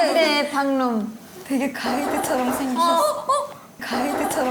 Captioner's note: knock knock knock knock knock knock